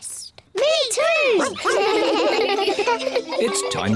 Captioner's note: giggle